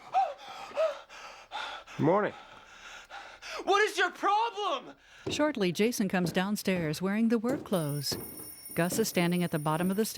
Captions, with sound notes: - GOOD MORNING. - WHAT IS YOUR PROBLEM! [ Alarm Clock Ringing ]